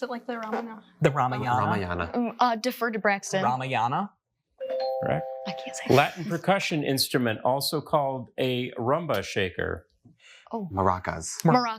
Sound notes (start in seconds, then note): 4.6 bell dings